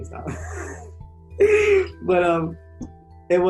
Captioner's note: chuckles